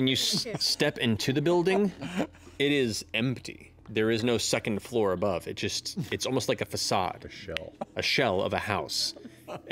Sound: Sam and Laura laughing

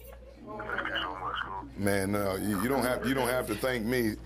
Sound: laughter

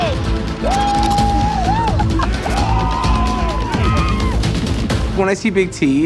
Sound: contestants cheering; dramatic music

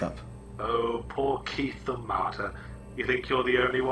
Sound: voiceover

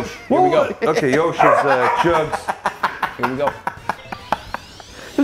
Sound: laugh

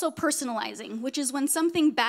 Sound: none

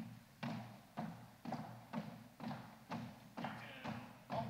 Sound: feet stomping

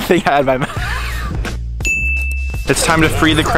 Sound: laughs

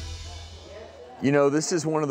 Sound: audience mumbling

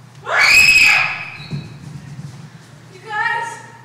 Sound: scream

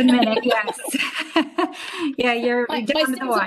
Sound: both laugh

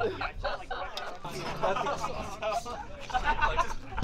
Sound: crowd chattering; crowd laughing

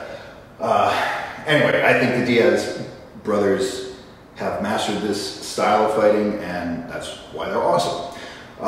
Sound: none

